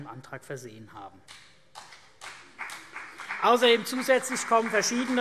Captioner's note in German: Beifall CDU und BÜNDNIS 90/DIE GRÜNEN